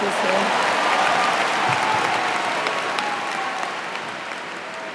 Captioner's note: cheers and applause